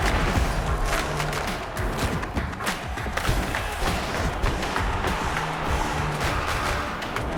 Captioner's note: crowd cheering